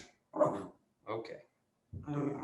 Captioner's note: Punch growls